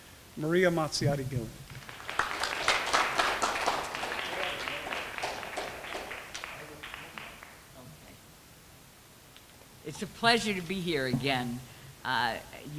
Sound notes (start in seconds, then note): 4.4 clapping